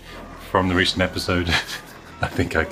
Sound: chuckles

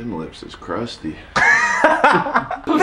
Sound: laughter

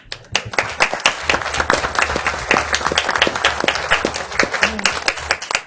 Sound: audience applauds

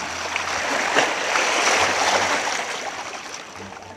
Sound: water bubbling

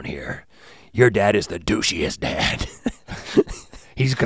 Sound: chuckles

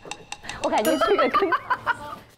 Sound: hahahaha

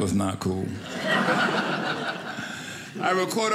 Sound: audience laughing

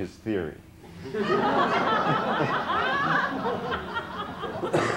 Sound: laughter

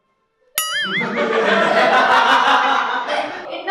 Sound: laughing

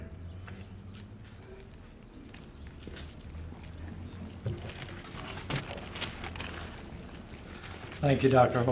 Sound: footsteps and other background noise

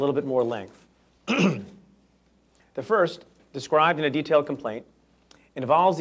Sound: clears throat

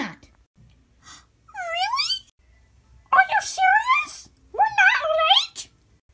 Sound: gasp

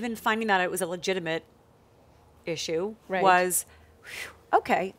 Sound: exhales

